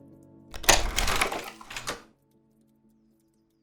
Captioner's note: slide clicks